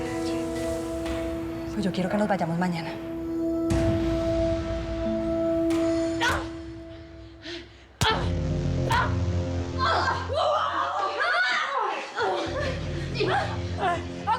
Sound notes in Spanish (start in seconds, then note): 7.8 golpes y exclamaciones; 8.8 puñetazo; 11.5 gritos y exclamaciones